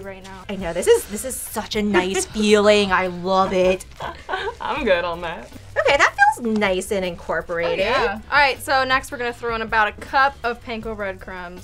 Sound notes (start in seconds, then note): 1.8 laughs